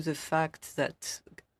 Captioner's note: speaking french